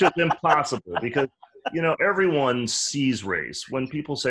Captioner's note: laughs